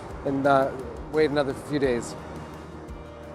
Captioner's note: none